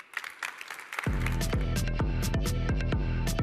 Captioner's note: applause